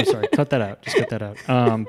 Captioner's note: laughs